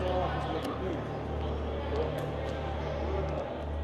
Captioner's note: overlapping chatter